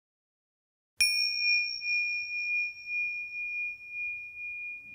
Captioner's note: bell dinging